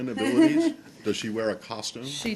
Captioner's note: laughter